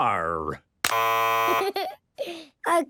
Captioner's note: buzzes